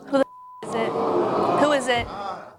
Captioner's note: audience exclaiming